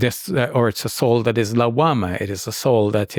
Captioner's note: speaks in Arabic